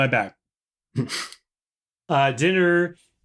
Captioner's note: laughter